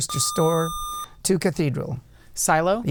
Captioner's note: buzzer